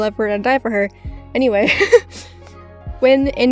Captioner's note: giggles